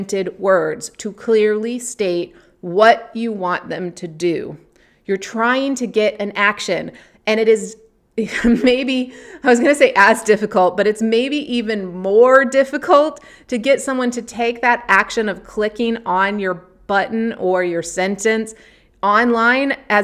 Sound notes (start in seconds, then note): 8.3 chuckling